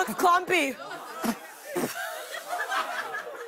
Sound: spitting; laughter

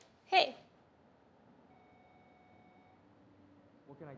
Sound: phone rings

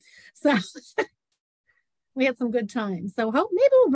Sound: laughs

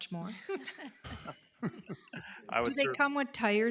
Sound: group laughs

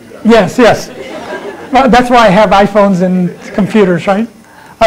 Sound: laughter

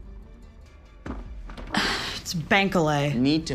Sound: suspenseful music; sighs

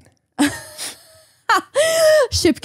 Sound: laughs

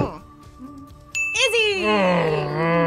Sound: bell rings

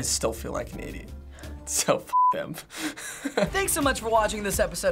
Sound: laughs

